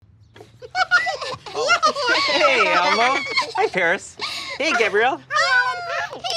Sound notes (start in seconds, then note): 0.4 laughter